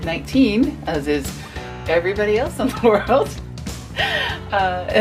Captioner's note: chuckles